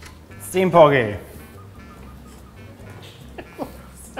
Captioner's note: exasperated laugh